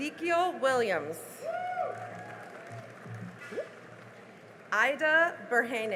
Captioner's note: cheering and applause